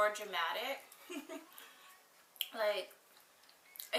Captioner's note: laughs